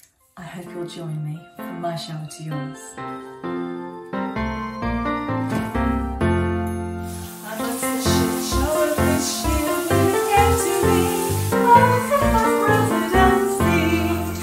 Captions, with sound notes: I hope you'll join me, from my shower to yours. [ SHOWER TURNS ON IN THE BACKGROUND ]